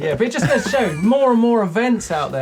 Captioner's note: laughing